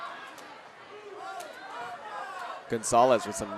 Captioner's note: audience cheering